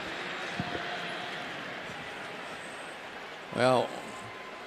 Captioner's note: pa announcement